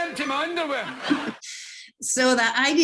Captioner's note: giggles